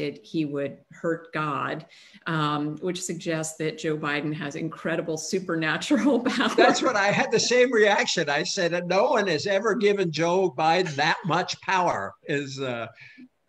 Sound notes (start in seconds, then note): 6.5 laughs